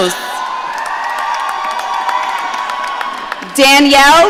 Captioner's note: audience cheering